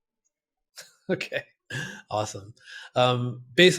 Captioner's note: laughs